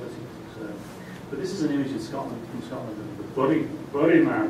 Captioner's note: scottish accent